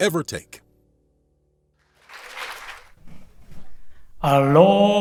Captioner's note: applause